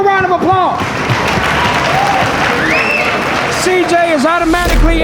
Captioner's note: spectators applauding